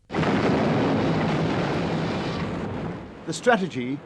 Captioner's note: ship explodes